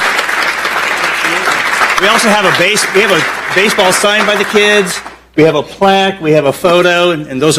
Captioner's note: applause